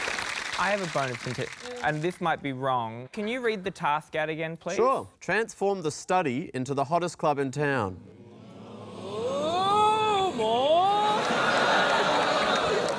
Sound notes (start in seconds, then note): 8.2 audience murmurs; 11.0 laughter